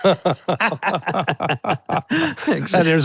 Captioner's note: both laughing